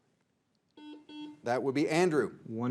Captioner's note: buzzer beeps